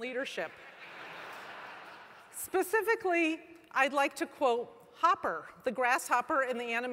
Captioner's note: laugh